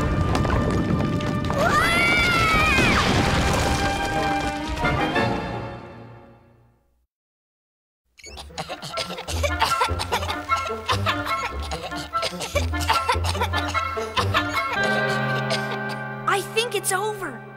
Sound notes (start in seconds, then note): 3.6 coughing